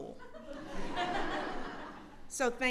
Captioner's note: laughter